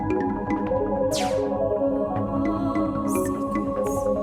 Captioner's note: laser firing sound; lady whispering "secrets"